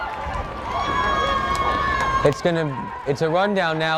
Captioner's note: crowd cheering